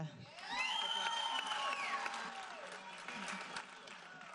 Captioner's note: audience applauding